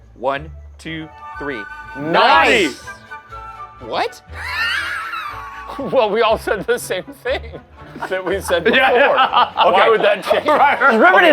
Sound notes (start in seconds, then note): 4.7 laughing; 7.8 laughing